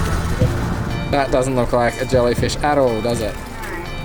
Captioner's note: sarcastically